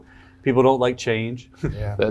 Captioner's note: chuckles